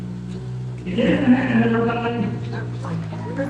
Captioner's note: crowd chattering